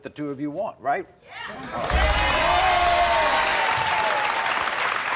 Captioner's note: crowd cheering